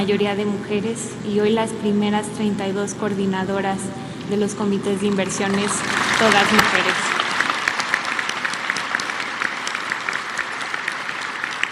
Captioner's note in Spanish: aplausos